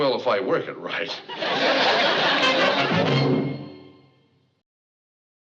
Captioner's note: chuckles